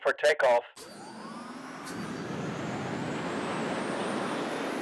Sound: engine rumbling

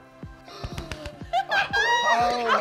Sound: homeowners gasp and laugh

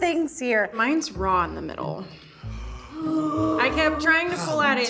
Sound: group gasping

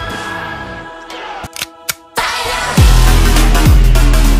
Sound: reloading sound

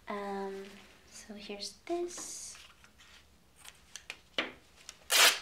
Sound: sheet ripping

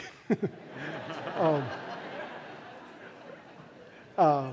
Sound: laughter

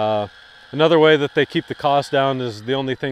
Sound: gate whirring

